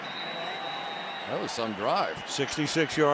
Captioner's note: whistle blows